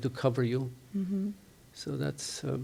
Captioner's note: none